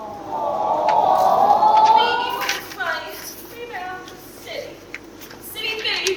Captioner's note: audience awws